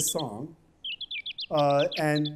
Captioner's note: chirping